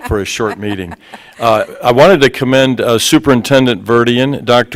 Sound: laughter

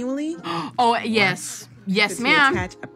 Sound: gasps

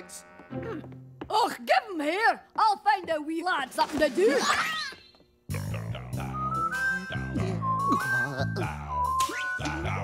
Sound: repulsed groans

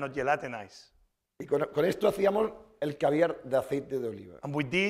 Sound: speaking spanish

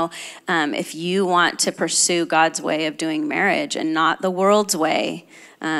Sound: none

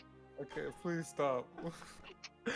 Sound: laughing

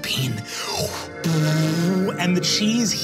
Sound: blowing air

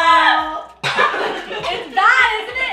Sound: disgusted yells; coughing

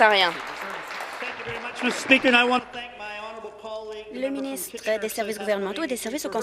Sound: applause

